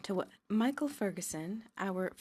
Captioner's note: speaking French